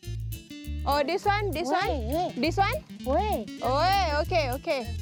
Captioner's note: foreign language